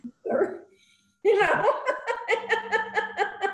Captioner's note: laughter